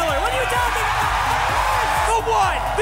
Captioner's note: cheering